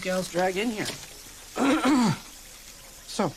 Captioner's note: clears throat